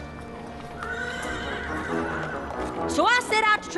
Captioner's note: horse neighs